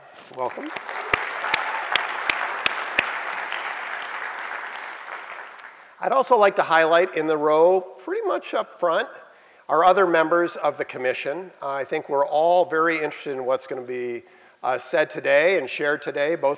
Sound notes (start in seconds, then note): 0.2 applause